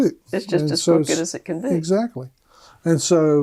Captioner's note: laughing